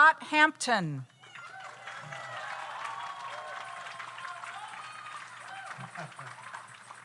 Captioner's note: audience applauds; audience cheers